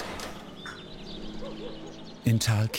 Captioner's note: birds chirping, barking